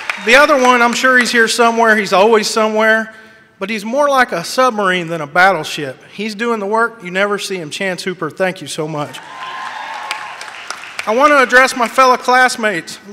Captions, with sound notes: The other one, I'm sure he's here somewhere. He's always somewhere, but he's more like a submarine than a battleship. He's doing the work. You never see him. Chance Hooper, thank you so much. (audience cheers) I want to address my fellow classmates.